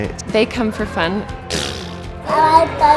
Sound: blows raspberry

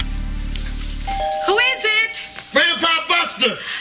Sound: doorbell rings

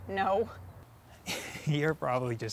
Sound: laugh

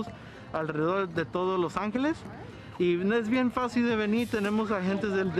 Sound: Spanish

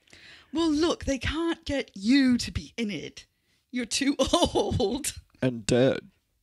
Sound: laughing

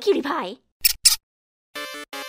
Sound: squeak

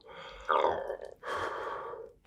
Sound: gulp

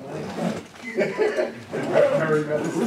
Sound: laughs

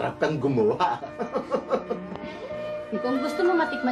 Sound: chuckling

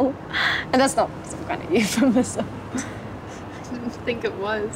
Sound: chuckles

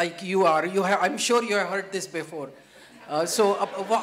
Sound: laughter

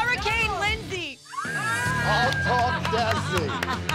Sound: screams

